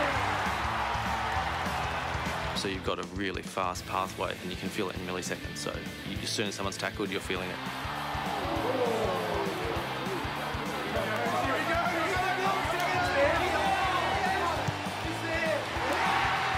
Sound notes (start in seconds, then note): 7.2 applause